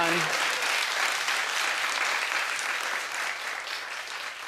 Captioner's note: audience clapping